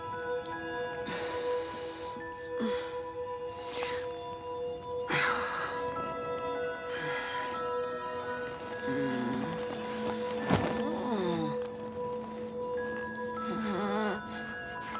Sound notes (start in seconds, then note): 0.9 groans